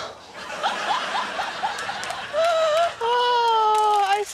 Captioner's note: laughs